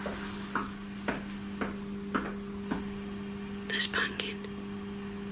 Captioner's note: tapping